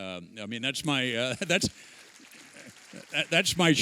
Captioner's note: applause